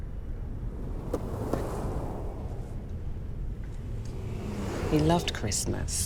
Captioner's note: cars whirring past